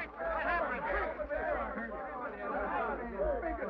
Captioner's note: men chatter